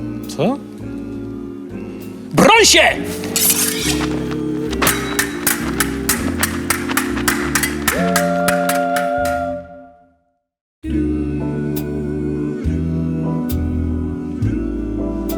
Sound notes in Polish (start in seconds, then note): 3.0 szczęk wyciąganych szabli; 5.0 szczęk ostrzy